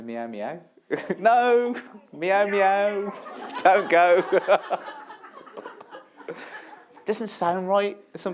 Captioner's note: laughter